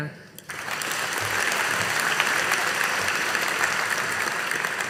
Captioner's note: audience applauding